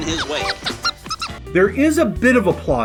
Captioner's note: bird squeaks